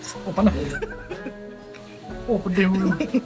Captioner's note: laugh